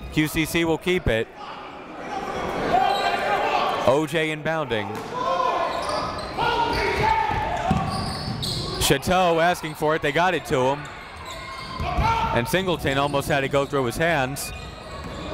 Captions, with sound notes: QCC will keep it. O.J. inbounding. (crowd talking) (coaches yelling) Chateau asking for it. They got it to him. And Singleton almost had it go through his hands.